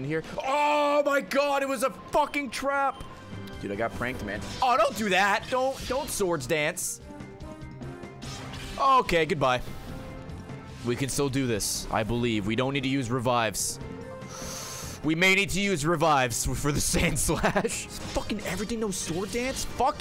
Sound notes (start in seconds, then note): 17.3 laughs